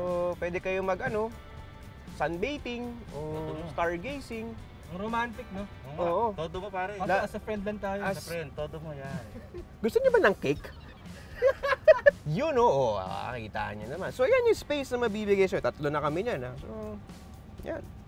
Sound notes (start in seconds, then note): 10.4 laughs